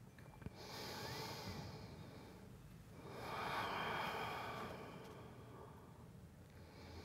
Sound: breathes in and out deeply

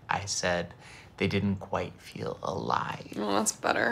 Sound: none

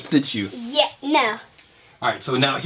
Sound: voiceover

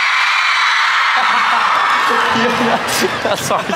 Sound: nervous laughter

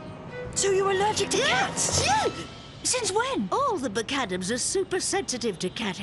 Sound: sneeze

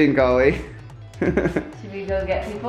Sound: laughs

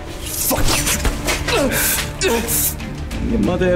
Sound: grunting

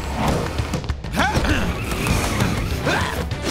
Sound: screaming

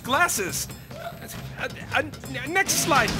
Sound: grunting

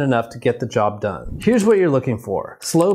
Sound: video clip whooshes

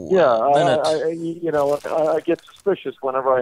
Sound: none

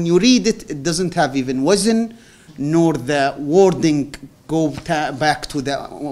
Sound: non-english

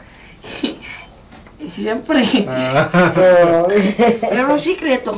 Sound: chuckles; laughter

